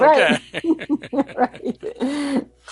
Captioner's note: laughter